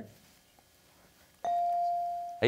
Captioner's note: whispering